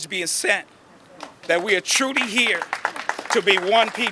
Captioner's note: audience applauding